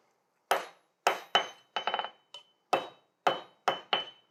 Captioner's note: metal clangs